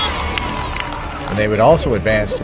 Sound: cheers, refs whistle

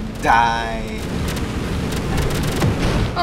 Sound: crackling sounds

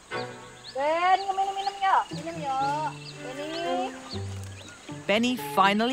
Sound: speaking in foreign language

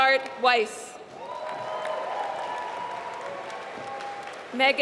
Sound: applause

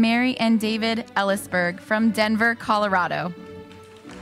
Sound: applauding

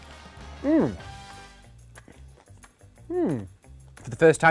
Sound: pleased moan

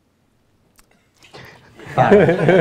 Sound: laughter

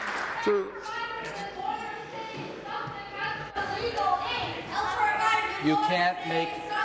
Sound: applause

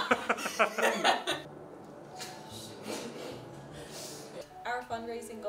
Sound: laughter

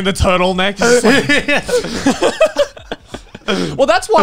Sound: everyone laughs

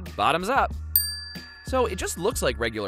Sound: dings

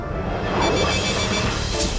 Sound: beep-beep; bee-bee-bee-bee-beep

